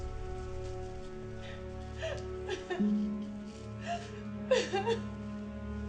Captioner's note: sobbing